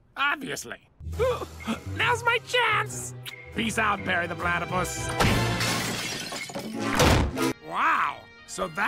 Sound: kiss

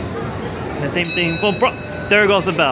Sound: bell ring

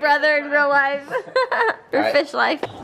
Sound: laughs

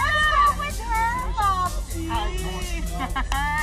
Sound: indistinct chatter, laughter

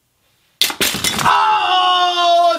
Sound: pieces crash

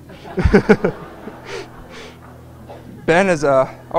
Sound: laughter

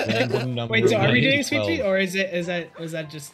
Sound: chuckles; giggles; laughs; talking to phone

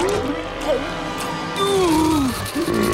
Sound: groaning; burping

